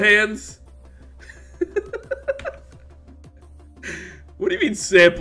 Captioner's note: laughs